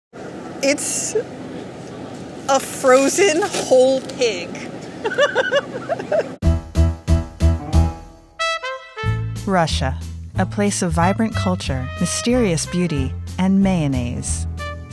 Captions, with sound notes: - It's a frozen, whole pig. (laughs) Russia, a place of vibrant culture, mysterious beauty, and mayonnaise;